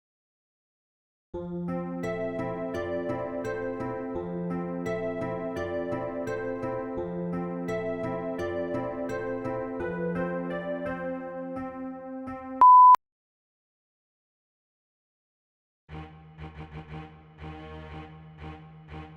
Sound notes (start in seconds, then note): 12.6 beeps